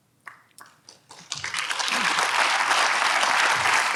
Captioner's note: audience applauds